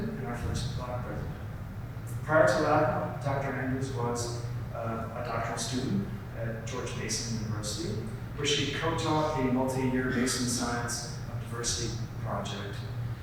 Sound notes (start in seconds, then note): none